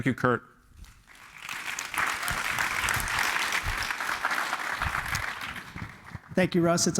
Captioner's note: applause